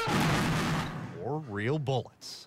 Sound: gunshots

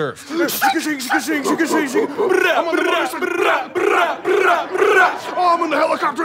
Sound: making fighting noises

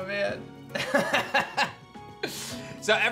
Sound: laughs

